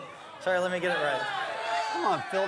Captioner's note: audience boos